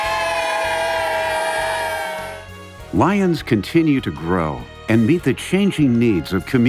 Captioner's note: cheering